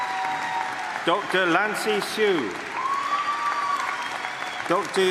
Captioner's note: applause; cheering; applause